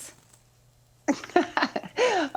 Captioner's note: Tana laughs